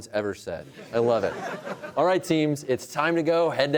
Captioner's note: laughter